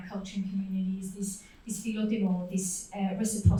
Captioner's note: foreign language